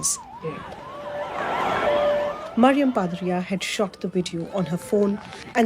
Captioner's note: siren blaring